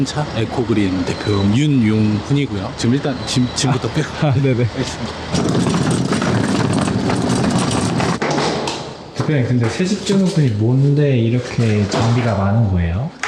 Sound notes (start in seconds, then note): 6.5 many construction tools